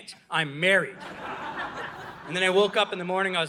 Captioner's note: audience laughing